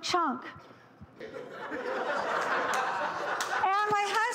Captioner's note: audience laughing